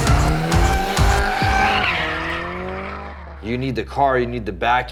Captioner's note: engine revs